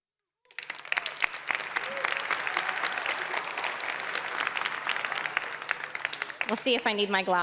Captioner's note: applause